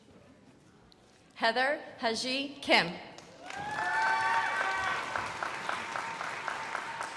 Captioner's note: crowd applauding